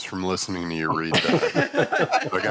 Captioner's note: laughter